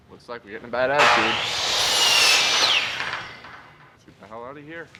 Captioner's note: loud construction equipment